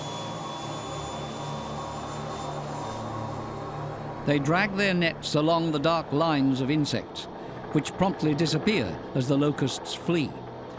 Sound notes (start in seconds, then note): 0.5 helicopter blades spin faster; 3.4 helicopter leaves